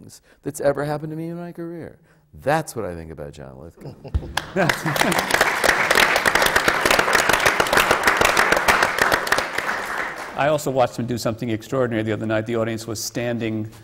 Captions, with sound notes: that’s ever happened to me in my career. That’s what I think about John Lithgow. (APPLAUSE) I also watched him do something extraordinary the other night. The audience was standing –